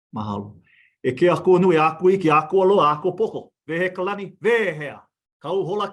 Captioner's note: speaks in foreign language